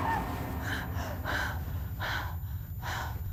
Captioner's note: heavy breathing